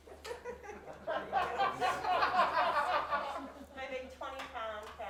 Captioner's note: audience laughs